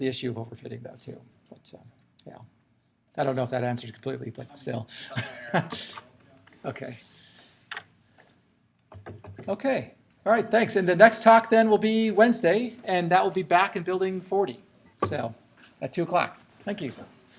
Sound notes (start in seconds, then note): 4.9 laughing